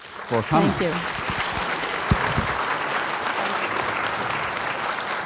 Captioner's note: applause